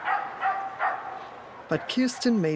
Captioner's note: dog barking